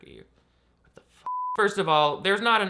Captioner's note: beep